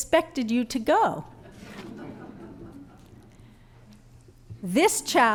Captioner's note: laughter